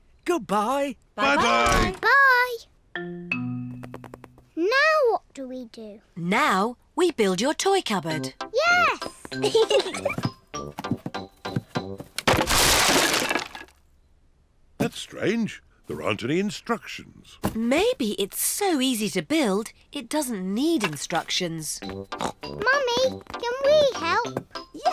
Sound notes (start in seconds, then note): 9.4 both giggle; 22.1 snorts